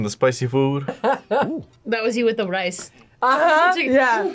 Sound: laughs

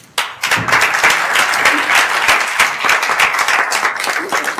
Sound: everyone applauding

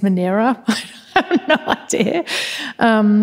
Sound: laughs

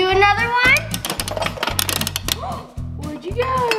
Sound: clicks

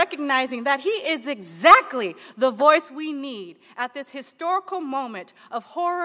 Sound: sigh

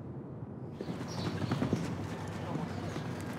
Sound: galloping

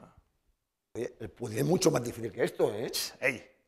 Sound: speaking spanish

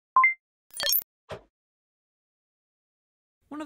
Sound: electronic beeping

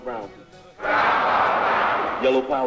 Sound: crowd

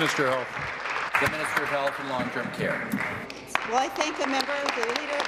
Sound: applause

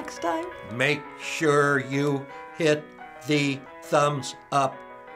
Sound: robotically

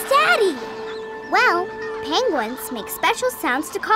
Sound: squawking

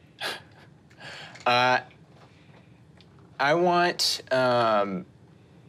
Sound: chuckles

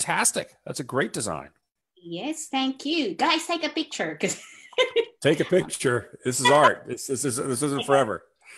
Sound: laughs

